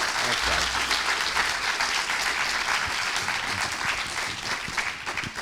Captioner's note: students applauding